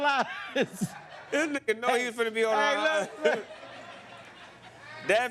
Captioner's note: laughs